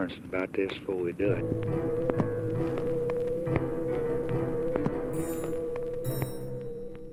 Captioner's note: tense dramatic music; phone ringing